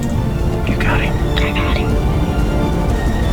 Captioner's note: whispering